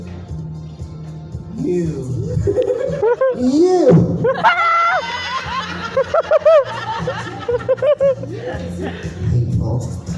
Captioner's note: audience erupts